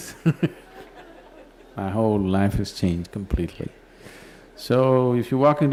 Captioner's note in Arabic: يضحك